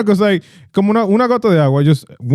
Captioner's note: speaking In Foreign Language